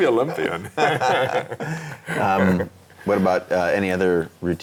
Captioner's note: laughing